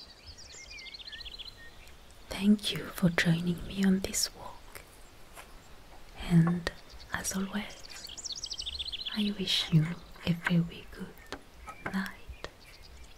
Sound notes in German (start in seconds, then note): 6.3 Zaunklappern